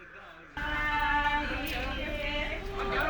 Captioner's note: chanting